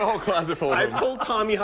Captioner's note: laughter